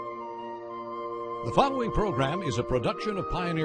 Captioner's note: slow orchestral music; voiceover